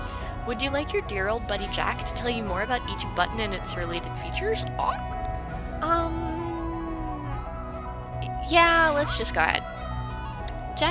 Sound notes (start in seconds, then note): none